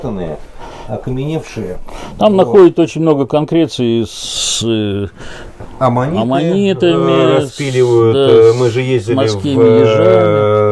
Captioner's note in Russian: фыркает